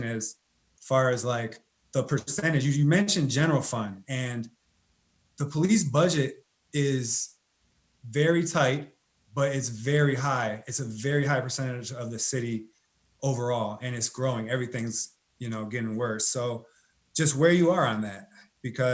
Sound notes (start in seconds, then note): none